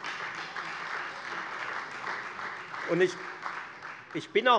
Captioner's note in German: Beifall Freie Demokraten